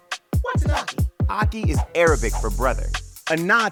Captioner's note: text whooshing